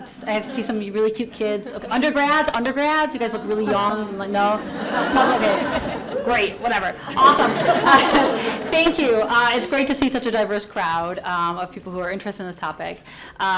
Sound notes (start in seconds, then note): 5.3 audience laughs; 8.1 audience laughs